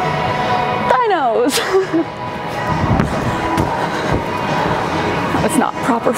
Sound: laughs

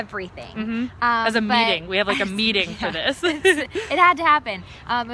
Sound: laughs

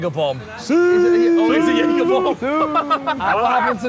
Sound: impression of Ronaldo

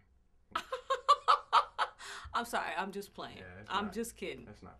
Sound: laughs

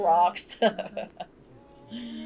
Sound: laughter

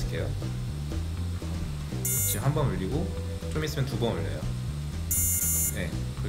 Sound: beep; beep beep

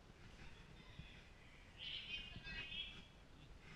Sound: chattering

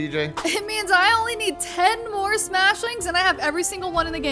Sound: laughing

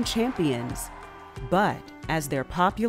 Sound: crowd cheering

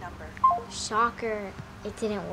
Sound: call ends

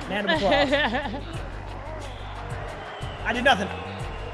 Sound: laugh; applause

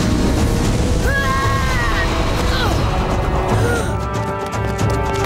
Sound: grunting

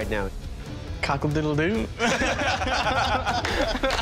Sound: laughter

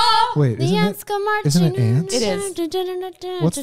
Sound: humming

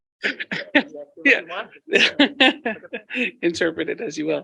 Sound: laughing

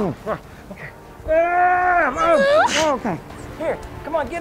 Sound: screams

